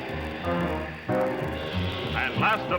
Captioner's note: crowd